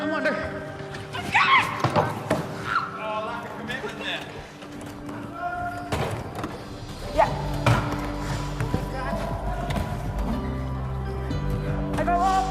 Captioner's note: inspiring music; people chattering